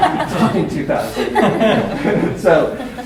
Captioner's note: laughter